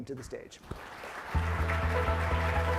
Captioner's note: applause